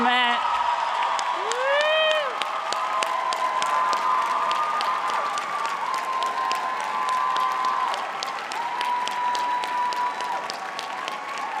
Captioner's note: audience applauding and cheering